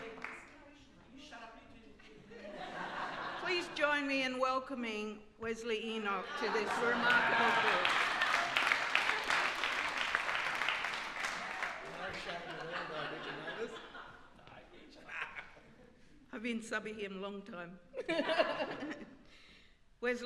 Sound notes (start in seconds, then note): 0.0 applause; 0.3 background chatter; 8.3 applause; 11.5 background chatter